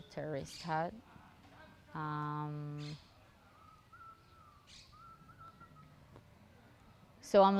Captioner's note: pauses 6 seconds